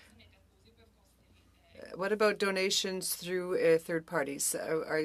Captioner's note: speaking French